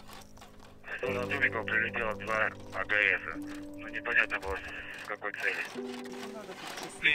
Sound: radio exchange

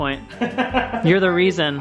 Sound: laughs

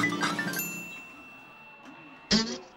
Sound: chimes

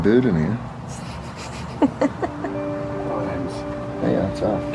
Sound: laughing

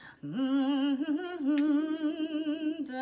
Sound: humming

